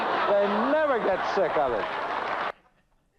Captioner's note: crowd laughing